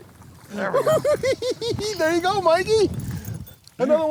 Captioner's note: laughing